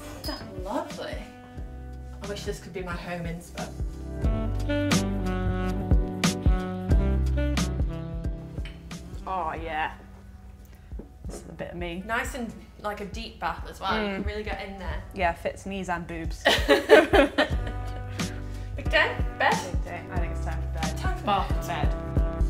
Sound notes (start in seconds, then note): 4.5 relaxing jazz music; 16.4 laugh; 22.2 relaxing music